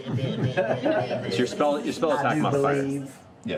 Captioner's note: Porky Pig stuttering